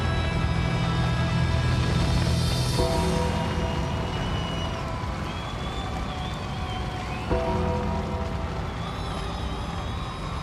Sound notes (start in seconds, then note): 0.2 ominous music continues; 4.7 audience cheers